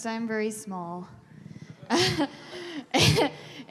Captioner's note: laughter